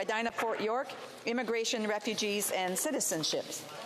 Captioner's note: speaking French